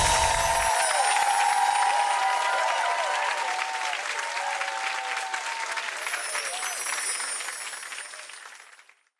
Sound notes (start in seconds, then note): 1.0 cheering and clapping; 6.8 cheering and clapping fades